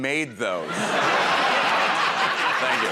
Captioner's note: laughter